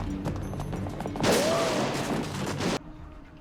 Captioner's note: quick footsteps; gunshots, ricochets